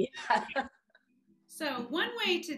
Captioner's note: laughs